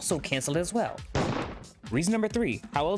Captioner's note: gunshot